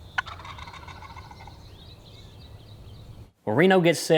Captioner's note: turkey gobble